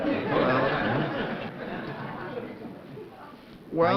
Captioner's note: laughter